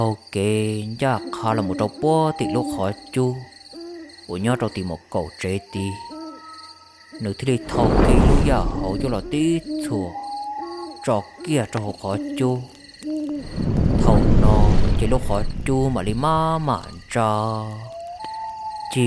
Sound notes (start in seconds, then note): 10.7 fire crackling